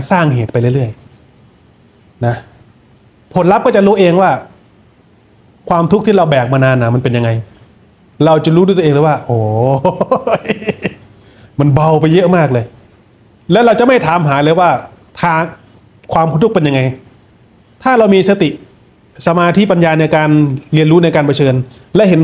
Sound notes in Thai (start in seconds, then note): 9.6 เสียงหัวเราะ